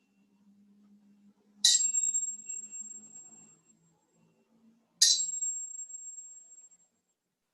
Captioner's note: taps on glass bottles